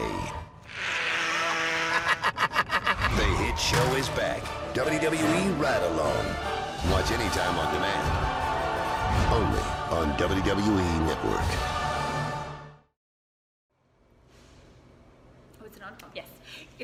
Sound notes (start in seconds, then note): 0.6 blowing nose; 3.5 laughter